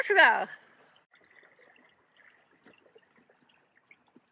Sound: almost quiet just the sound of a little trinkling water

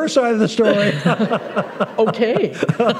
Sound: laughter

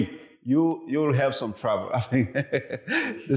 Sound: chuckles

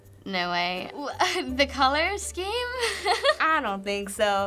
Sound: laughs

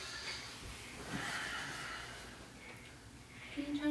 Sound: breathes deeply

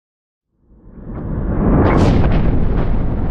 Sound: rumble

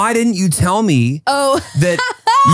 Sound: laughing

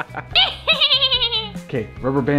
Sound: cackling

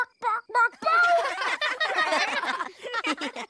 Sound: giggles

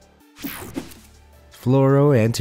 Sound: image whooshing

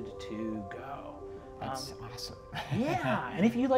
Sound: chuckles

